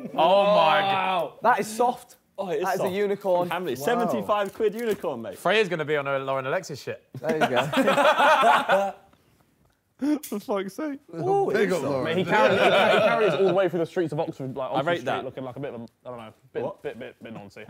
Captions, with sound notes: - Oh, that is soft. Oh, it's the unicorn. - 75 quid unicorn mate. - Fray is going to be on her Lauren Alexis. - There you go. (laughing) - We'll wait for the streets of Oxford black